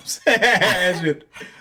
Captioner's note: laughs